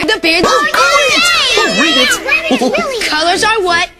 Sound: Kids and Barney cheer

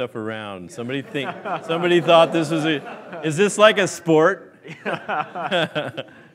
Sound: laughs

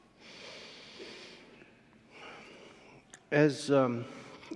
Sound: interpreter sighs

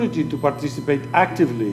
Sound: speaking foreign language

